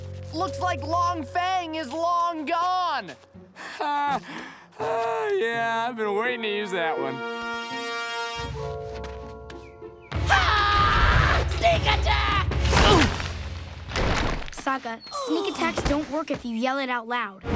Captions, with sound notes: Looks like Long Fang is long gone! Ha! Oh yeah, I've been waiting to use that one. [screaming] Sneak attack! [grunting] Sokka, sneak attacks don't work if you yell it out loud.